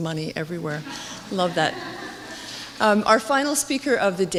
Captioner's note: audience laughing